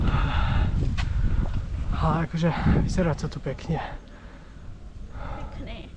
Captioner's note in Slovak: vzdychanie